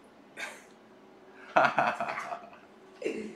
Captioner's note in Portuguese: risos